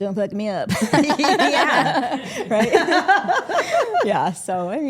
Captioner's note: group laughing